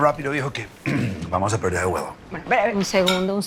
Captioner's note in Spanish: Carraspea